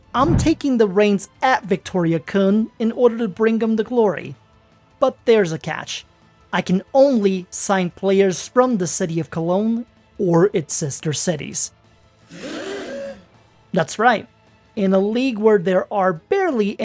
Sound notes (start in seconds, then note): 12.3 le gasp/meme here